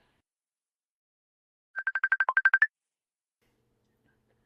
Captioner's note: video call tone